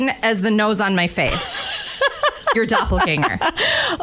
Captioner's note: laughs